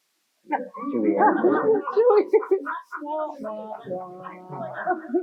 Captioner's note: laughter